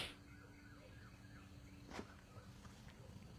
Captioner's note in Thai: เสียงสูดหายใจ